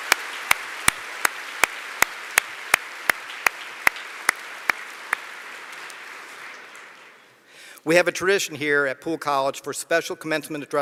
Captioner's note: applause